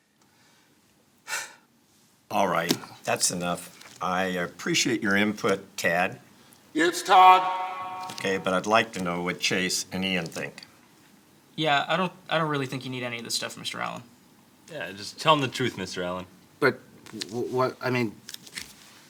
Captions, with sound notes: (sighs) - Alright, that's enough. I appreciate your input, Ted. - (echoing) It's Todd. - Okay, but I'd like to know what Chase and Ian think. - Yeah, I don't, I don't really think you need any of this stuff, Mr. Allen. - Yeah, just tell 'em the truth, Mr. Allen. - But, what, I mean,